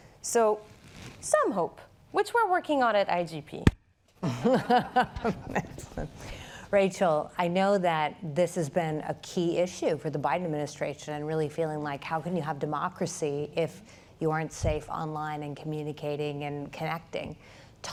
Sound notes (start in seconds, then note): 4.2 laughter